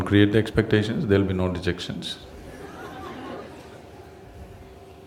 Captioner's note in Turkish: gülüşler